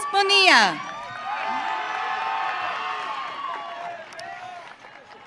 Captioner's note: audience cheering